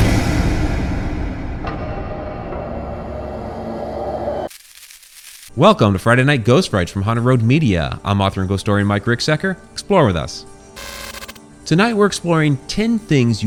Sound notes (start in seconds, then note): 0.0 suspenseful music; 4.4 static buzzing; 10.8 static buzzing